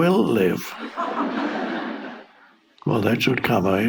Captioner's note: audience laughing